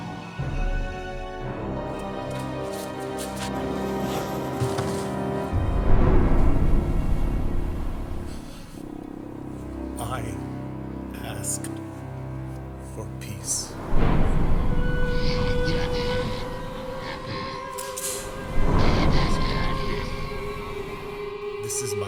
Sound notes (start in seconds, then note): 0.3 dramatic music; 5.6 waves rumbling; 15.3 eerie music